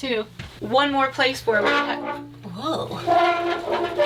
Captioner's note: door squealing